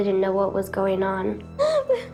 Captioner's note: sobbing